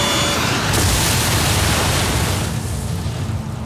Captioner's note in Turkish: Çarpışma ses